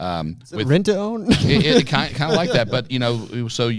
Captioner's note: laughs